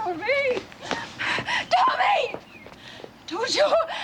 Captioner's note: gasping